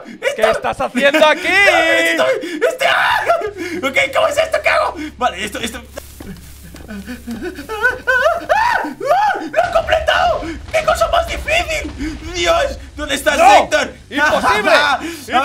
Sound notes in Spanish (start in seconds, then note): 2.6 Grita; 3.2 Risa nerviosa; 8.1 Grita